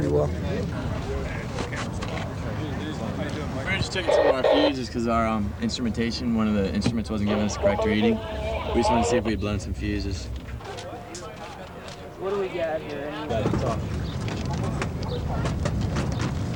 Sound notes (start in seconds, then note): 0.3 indistinct crowd conversations; 11.3 paper rustling; 13.6 birds chirping; 13.9 people shuffling about